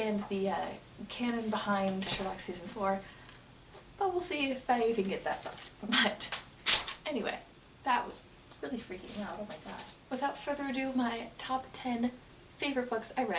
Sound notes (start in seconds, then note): 6.7 slams book down